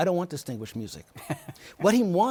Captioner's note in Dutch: Laughs